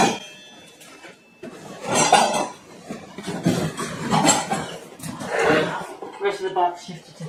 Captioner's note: metal clashing together